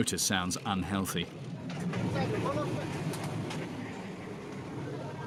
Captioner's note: indistinct chatters